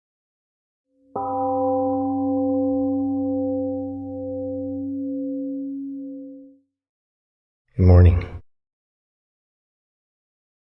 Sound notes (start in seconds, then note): 1.1 temple gong rings and fades